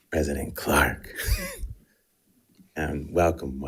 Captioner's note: laughing